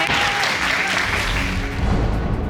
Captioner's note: applause